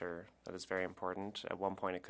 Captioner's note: speaking French